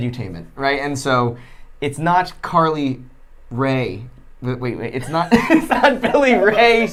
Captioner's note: laughing